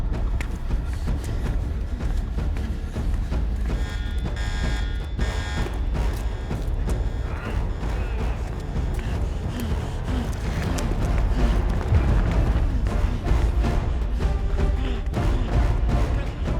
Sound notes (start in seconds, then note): 0.2 alarm blaring; 0.2 dramatic music; 7.2 dramatic music; 7.3 Daniel groaning